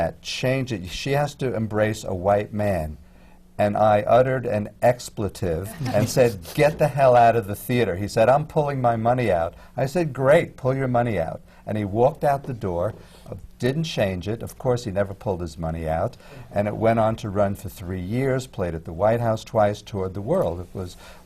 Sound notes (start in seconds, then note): 5.1 laughter